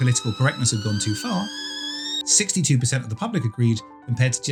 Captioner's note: kettle whistling